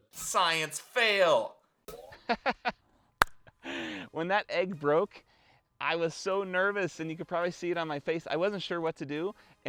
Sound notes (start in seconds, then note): 2.1 laughs